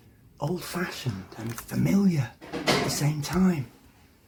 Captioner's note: whispering; whisper